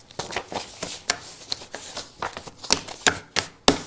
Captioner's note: papers rustle